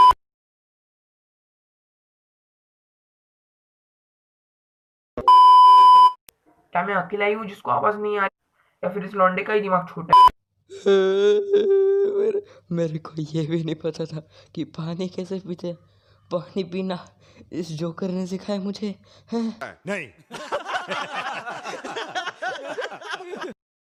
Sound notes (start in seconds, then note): 0.0 beep; 5.2 one more beep; 10.8 crying